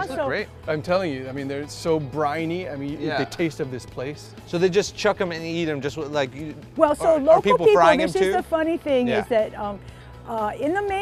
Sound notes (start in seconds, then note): none